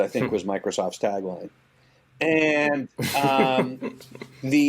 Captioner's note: laughing